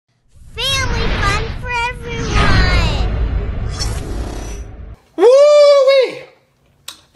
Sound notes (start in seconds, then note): 2.4 air whooshing